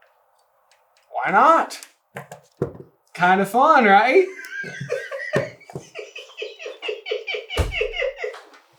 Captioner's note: giggling his head off